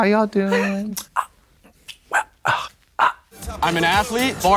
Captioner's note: Katya stammers